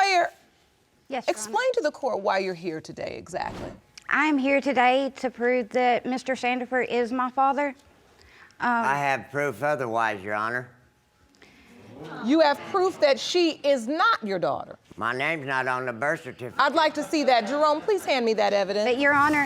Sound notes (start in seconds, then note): 12.6 audience gasps